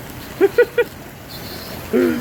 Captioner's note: laughing